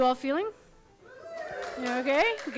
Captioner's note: audience cheers